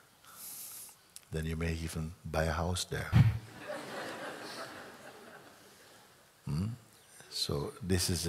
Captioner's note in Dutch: gelach